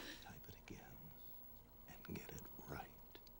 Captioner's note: whispering